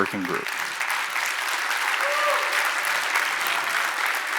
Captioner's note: applause